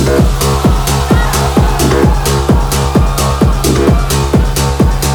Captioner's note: crowd cheering; techno music